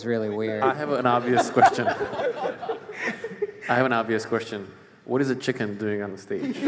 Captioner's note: chicken voice